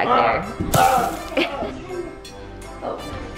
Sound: grunts

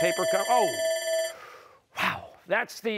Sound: timer sounding

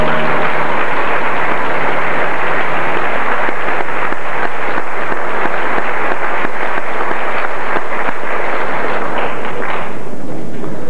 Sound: applause

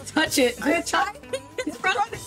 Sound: laughs

